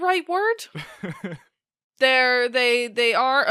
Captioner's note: laughs